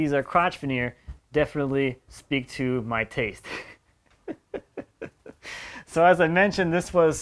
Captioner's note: laughs